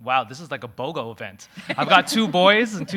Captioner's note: audience laughing